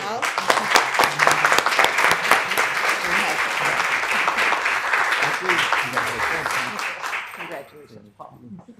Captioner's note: applause